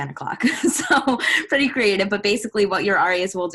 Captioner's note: laughs